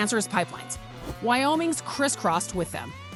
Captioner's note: text whooshing